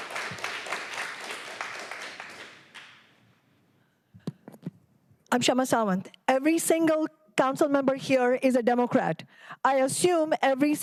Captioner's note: applause